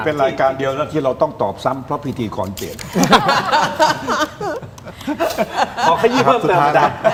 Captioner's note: laughter